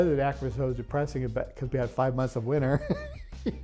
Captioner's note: laughs